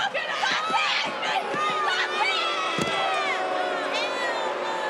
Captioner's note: crowd booing